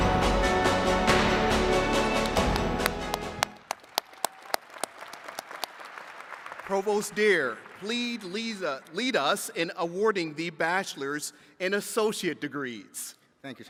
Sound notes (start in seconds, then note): 0.0 uplifting music; 4.2 attendees cheering and clapping